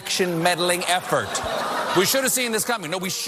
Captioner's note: audience laughs